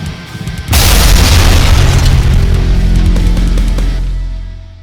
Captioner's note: ground crashes